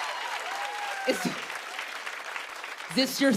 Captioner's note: cheers and applause